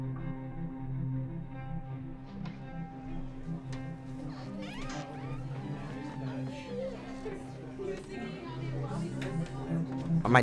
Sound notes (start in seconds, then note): 1.8 students chatting inside the classroom